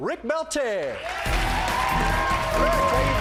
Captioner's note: cheers and applause